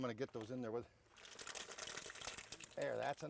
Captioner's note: clams hitting the pot